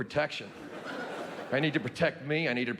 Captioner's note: audience laughing